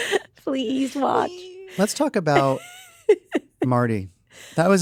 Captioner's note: laughs